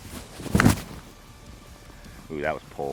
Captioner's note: balloon pops